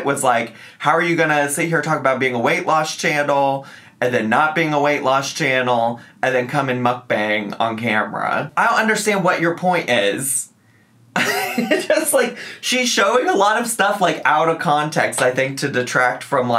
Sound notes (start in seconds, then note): 11.1 laughs